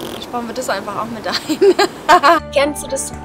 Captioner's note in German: Lach